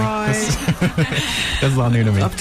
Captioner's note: laughing